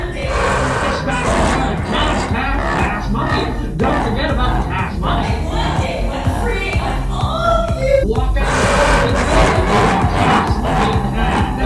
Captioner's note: Laughs over Mr. and Mrs. White's speaking